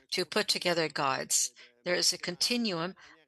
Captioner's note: speaking French